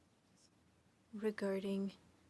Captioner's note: speaking French